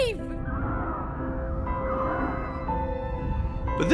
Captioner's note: wind howls